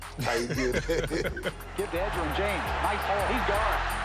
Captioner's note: both laugh